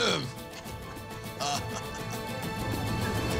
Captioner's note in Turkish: Bamsı gülüyor